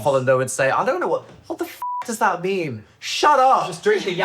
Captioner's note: beep